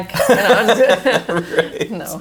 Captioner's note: both laugh